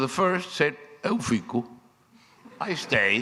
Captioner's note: speaking foreign language